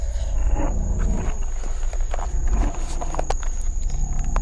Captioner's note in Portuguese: Shuffling como NOAH se atrapalha com a câmera